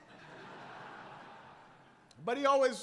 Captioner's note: laughter